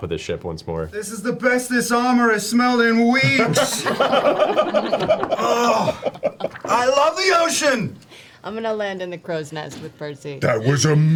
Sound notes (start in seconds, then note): 3.3 all laugh